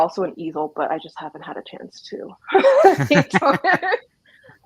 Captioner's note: laughs